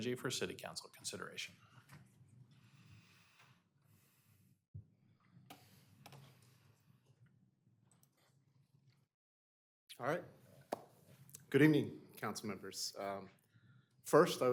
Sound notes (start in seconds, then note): none